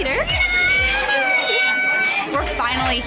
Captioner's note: mom yelling